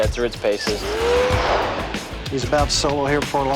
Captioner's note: aircraft engine roaring